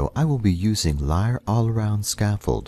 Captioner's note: Arabic